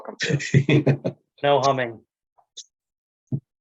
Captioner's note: laughs